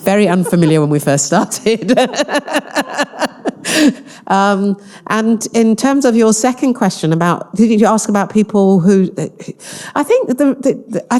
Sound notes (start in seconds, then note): 2.0 laughing